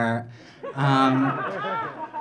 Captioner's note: audience laughing